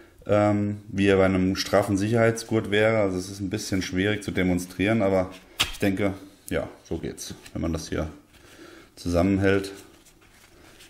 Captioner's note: heavy breathing